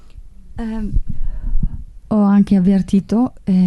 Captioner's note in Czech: mluví italsky